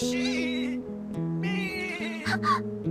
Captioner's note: bleating; gasps